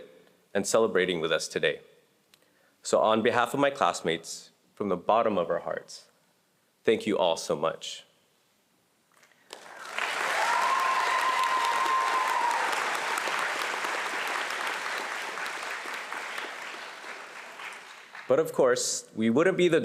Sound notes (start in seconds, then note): 9.5 audience cheering and applauding